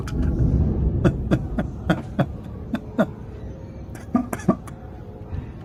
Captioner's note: Ketawa